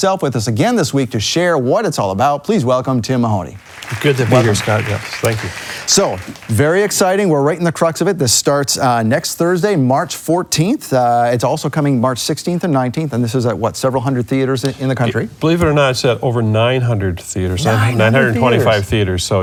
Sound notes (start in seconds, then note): 3.6 applause